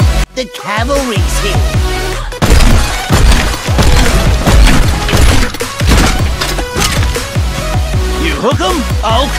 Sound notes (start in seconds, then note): 2.4 frag Launcher Weapon Discharge